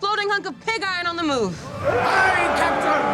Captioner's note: yelling